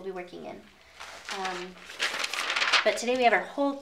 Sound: paper rustling

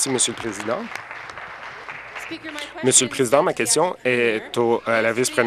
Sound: applause

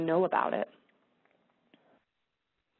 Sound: pause

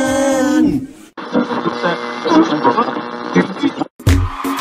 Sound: radio tuning; crowd screaming

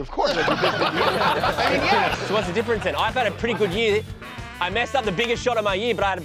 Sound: laughter

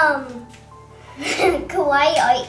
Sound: laughing

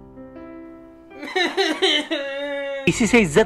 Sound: intense sobbing

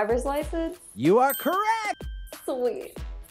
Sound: bell dings

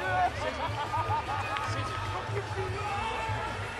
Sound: laughter

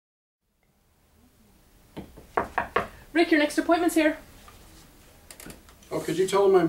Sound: knock on door

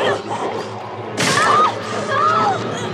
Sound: screaming

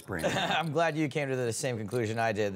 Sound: chuckles

